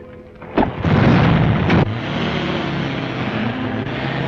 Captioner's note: engines rumbling